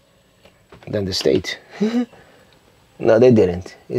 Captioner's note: chuckles